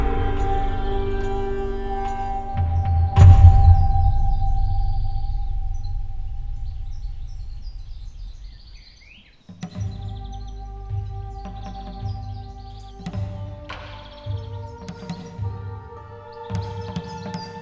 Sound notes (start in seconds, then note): 5.7 bird chirps; 9.8 slow music